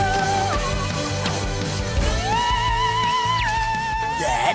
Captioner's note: none